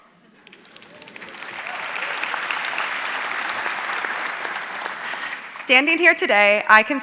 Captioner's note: audience cheering and applauding